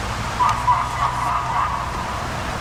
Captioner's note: dog Barking